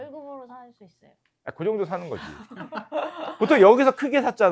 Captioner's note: laughter